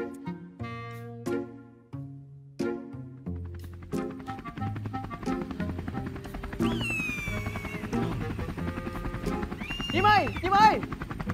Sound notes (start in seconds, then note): 3.7 helicopter sound; 6.6 eagle cry